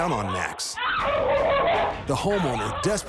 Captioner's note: barking